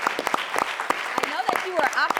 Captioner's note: audience clapping